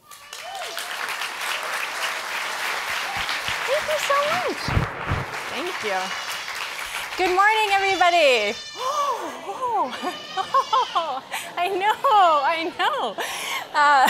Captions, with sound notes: (audience applauding) hank you so much, thank you. Good morning everybody. (baby screaming) Oh, I know, I know. (laughing)